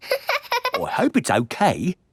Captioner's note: laughing